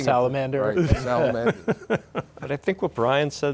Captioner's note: laughing